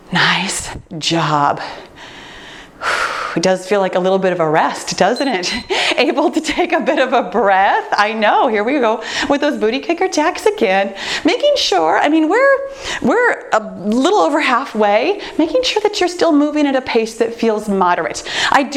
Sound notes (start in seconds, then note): 5.1 timer beeps